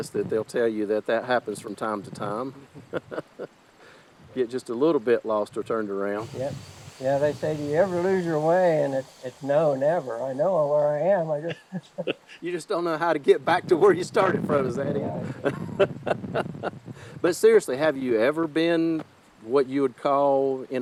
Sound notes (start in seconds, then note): 11.4 both laughing; 15.2 laughing